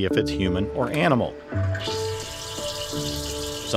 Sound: water splashing

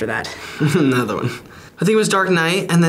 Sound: chuckles

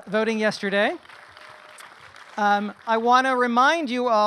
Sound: crowd applauding

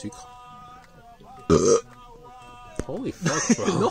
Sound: burps

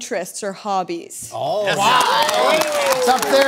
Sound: applause

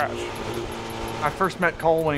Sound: engine roaring

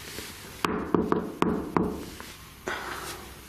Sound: knocks

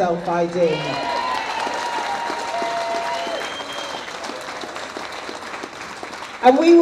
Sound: audience cheers

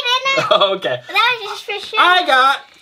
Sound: laughing

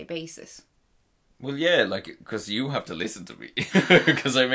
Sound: laughs

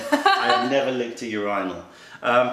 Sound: laughter

